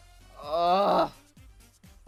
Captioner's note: even more groaning